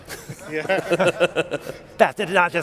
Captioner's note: laughing